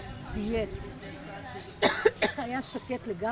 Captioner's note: coughing